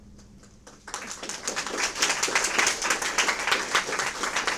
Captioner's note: audience applause